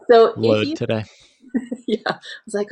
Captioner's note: chuckling